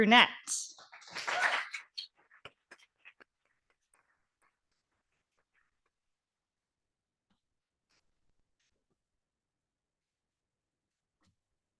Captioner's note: audience applauding